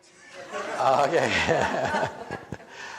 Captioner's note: audience laughs; laughing